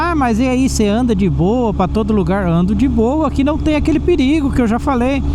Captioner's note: interference